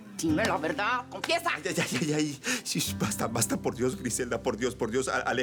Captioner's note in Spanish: Manotazos